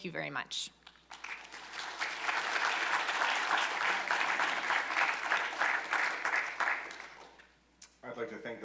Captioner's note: applause